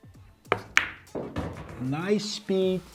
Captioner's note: upbeat music; ball bangs